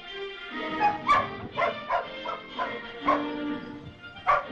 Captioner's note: dog barks